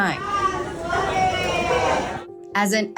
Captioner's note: cheering